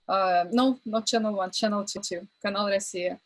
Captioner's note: speaks in foreign language